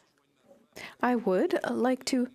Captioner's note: speaking French